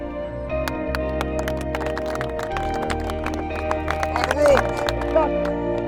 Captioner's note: group clapping